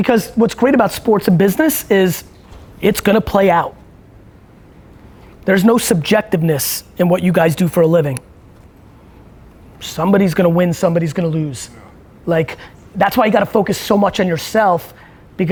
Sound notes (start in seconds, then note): none